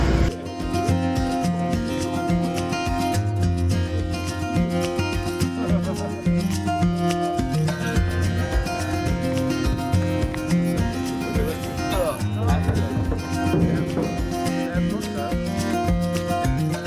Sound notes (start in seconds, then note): 5.4 people chattering